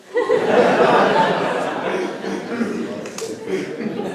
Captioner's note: laughter